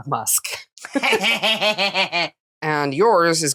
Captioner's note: gremlin cackling